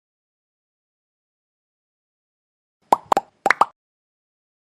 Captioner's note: sound effect: bubbles popping